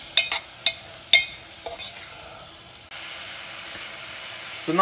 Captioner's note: stir frying sound